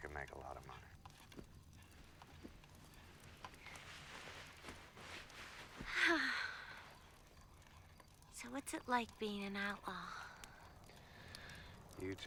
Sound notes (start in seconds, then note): 5.7 sighing